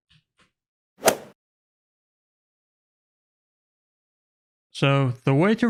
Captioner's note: golf swing sound effect